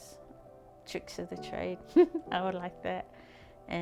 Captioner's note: chuckles